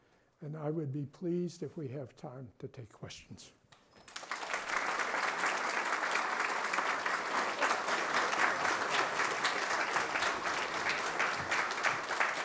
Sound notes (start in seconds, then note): 4.0 applause